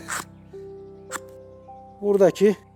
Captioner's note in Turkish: ıskarpelanın temizleme sesi hışırt hışırt